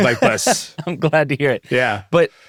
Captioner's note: laughs